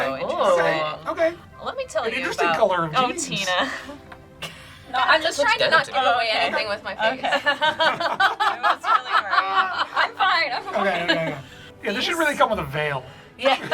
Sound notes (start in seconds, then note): 6.3 group laughs